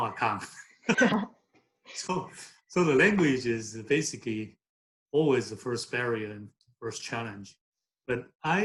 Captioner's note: laughs